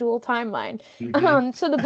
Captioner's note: laughing